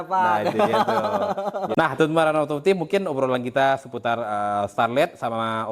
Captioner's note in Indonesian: tertawa